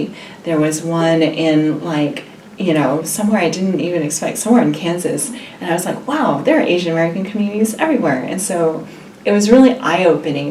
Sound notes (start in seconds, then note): none